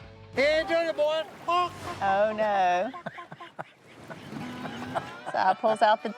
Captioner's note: Si clucks